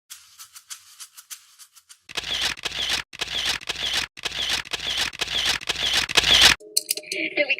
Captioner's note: clicking noises from taking pictures